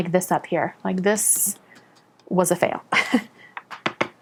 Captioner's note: chuckles